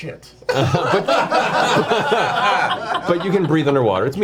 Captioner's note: all laugh